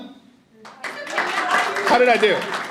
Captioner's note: audience applauding